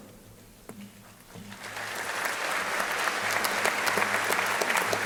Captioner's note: crowd applauding